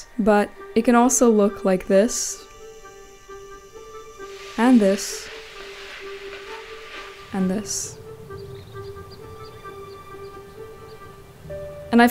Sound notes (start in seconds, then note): 2.4 meditative music; 5.5 vegetables sizzling; 8.2 birds chirping; 8.2 meditative music